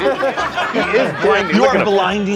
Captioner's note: laughter